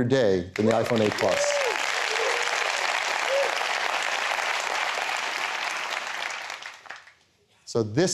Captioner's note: applause